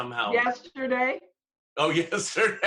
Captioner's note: laughter